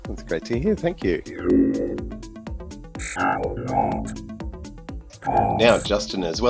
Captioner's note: synthesized voice